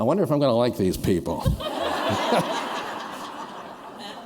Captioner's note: laughter